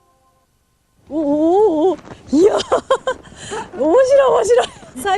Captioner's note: laughter